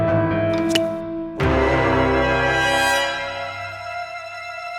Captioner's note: shoe scrapes; dramatic music; dramatic music continues